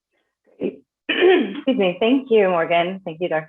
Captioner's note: clears throat